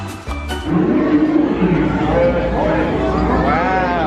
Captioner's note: playful energetic music; people chattering; vehicle humming